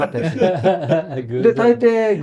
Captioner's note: laughs